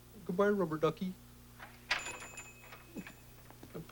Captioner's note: door rings